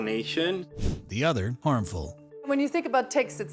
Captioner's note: screen whooshes